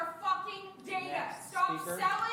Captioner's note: shouting continues